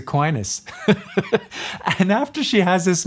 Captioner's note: laughs